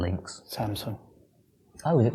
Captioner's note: whispers